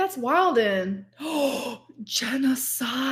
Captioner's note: gasps